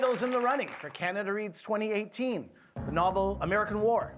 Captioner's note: applause